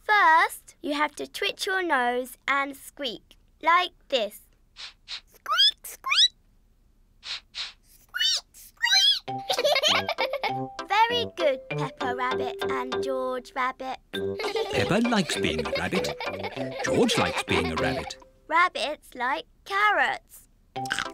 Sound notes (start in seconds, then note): 4.7 sniffs and squeaks; 7.2 both sniff and squeak; 9.7 giggling; 14.3 all giggle; 20.9 crunches